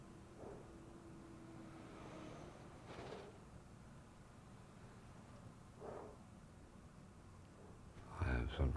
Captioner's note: breathing softly